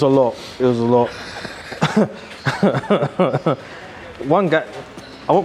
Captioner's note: laughing